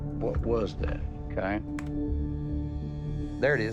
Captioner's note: key clicks